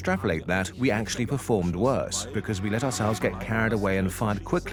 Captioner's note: in German; dubbed in English